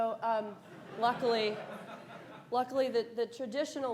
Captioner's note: audience laughs